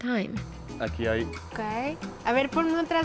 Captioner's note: both speaking Spanish